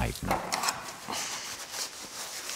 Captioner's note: scraping noises